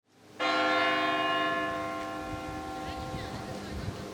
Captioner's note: bell tolls